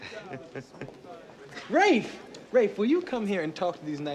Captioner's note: chuckling